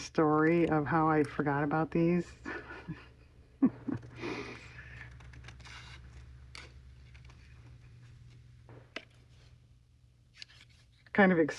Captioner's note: laughs